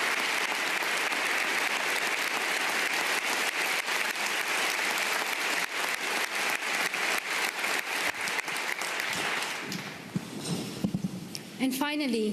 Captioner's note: applause